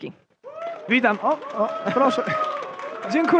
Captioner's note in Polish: oklaski